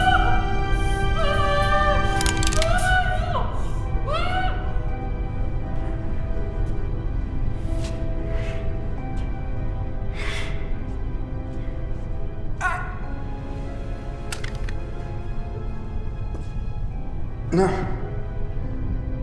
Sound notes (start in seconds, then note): 0.1 yelling; 2.2 guns cocking; 5.4 dramatic music; 12.9 grunting